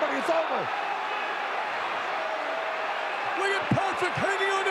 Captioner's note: audience cheering